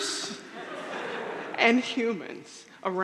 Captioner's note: audience laughing